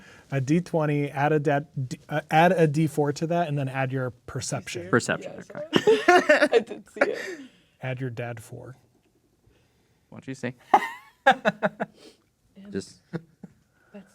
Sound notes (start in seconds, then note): 5.4 laughing; 10.7 laughing